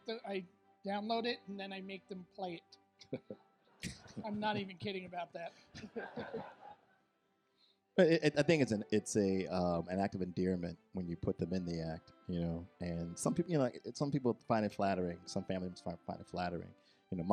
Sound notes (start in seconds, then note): 5.8 audience laughs